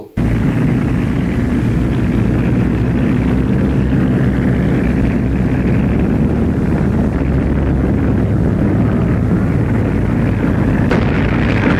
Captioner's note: sound of gunfire